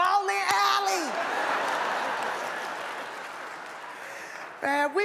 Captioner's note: audience laughs